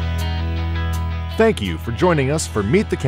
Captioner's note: voiceover